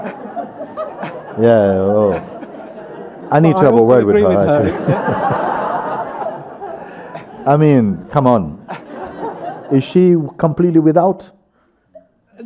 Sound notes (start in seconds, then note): 0.4 laughter; 4.8 laughs; 5.4 laughter